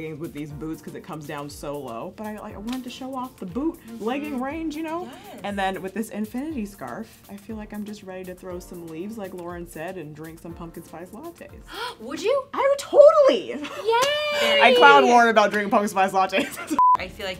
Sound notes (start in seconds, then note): 11.7 gasps; 16.8 beeping